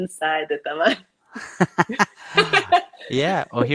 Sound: both laughing

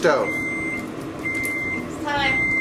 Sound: beeping

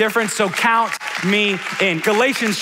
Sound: audience applauding

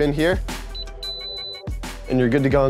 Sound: beep

